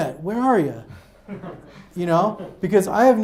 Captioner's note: audience laughs